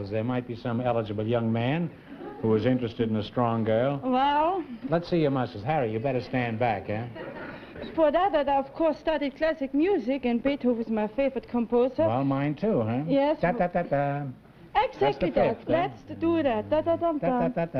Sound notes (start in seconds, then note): 13.5 hums